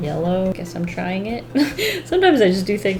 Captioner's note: laughs